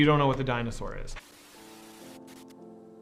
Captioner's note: static